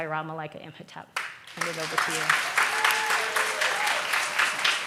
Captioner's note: audience claps